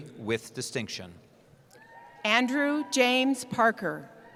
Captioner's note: cheering